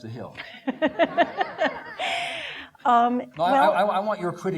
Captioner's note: laughing